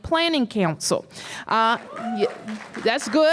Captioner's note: cheers and applause